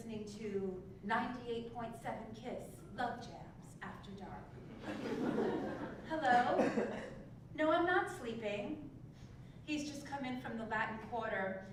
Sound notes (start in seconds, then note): 4.8 laugh